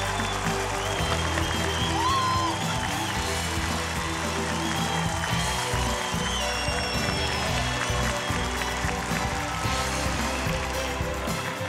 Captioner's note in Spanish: aclamaciones; aplausos